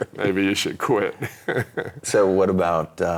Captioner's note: laughing